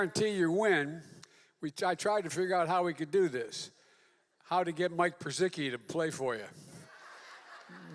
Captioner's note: laughter